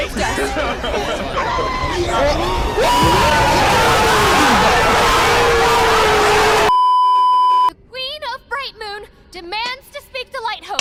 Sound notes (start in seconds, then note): 3.0 screaming